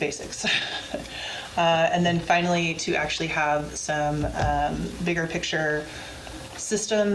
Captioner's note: laughs